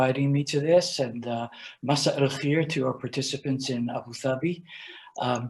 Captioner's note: speaking in Arabic